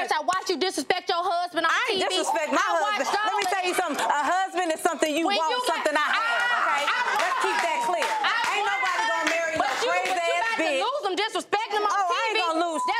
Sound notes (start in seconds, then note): 5.8 audience clapping